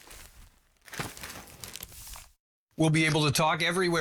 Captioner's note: bag rustling; walkie Talkie Noise